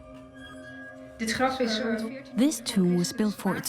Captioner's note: in Dutch dubbed n English